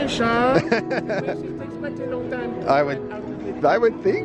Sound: with a French accent; laughing; with a French accent

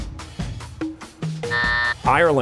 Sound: buzzer

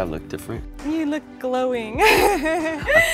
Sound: laughs

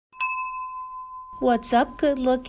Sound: bell rings

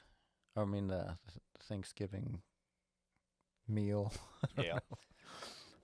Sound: chuckles

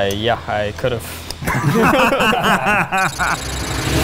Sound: laughing; dramatic music

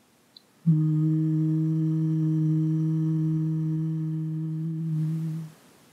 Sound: humming sound

